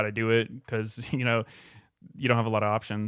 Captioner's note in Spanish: risas